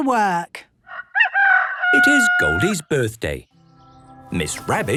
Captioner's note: rooster crowing